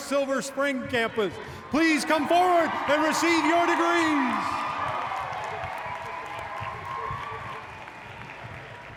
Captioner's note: applause